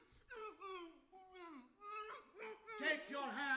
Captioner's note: woman groaning